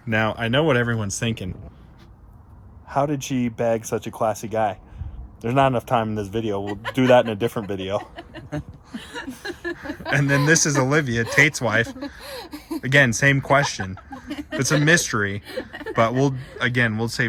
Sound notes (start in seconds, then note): 8.3 laughing; 8.9 chuckles